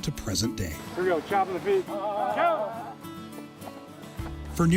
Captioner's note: players groaning; footsteps falling